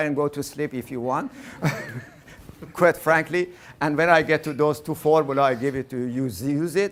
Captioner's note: laughing